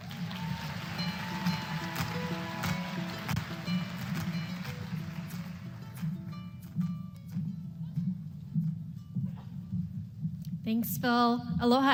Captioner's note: applause